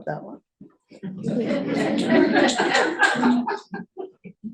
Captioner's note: laughter